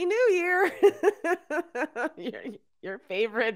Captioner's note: laughing